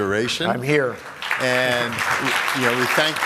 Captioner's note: applause